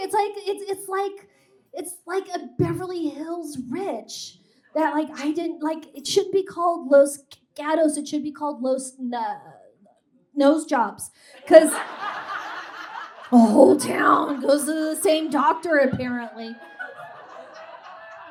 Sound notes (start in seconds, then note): 11.7 audience guffaws